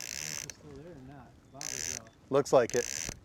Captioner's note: drag clicking